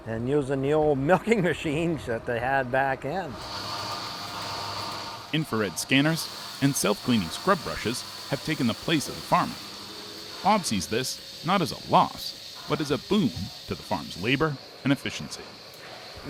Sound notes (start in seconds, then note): 3.8 milker humming